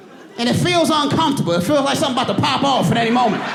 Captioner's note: audience laughing